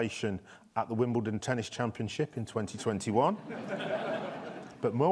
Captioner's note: audience laughs